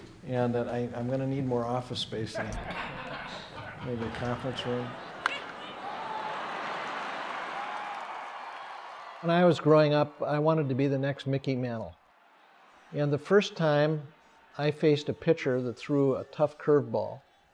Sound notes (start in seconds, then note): 2.4 laughter; 5.2 crowd roars